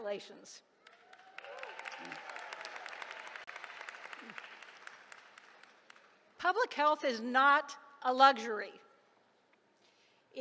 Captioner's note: applause